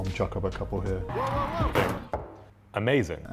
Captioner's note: car hitting man; ball dropping in cup